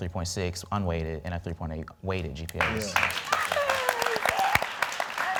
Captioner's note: audience clapping